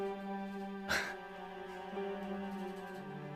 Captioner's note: chuckles; gentle music